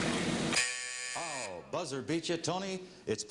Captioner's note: buzzer